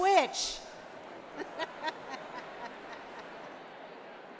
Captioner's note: laughing